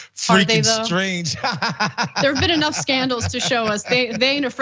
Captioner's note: laugh